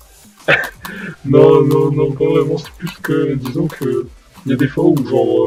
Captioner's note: laugh